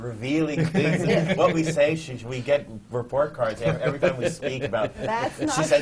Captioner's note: laughs